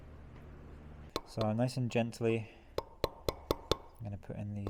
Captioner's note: metal hammering